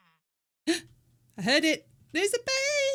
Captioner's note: gasp